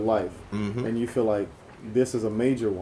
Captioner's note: voiceover